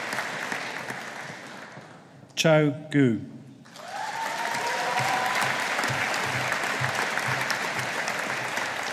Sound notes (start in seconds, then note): 3.7 audience applauding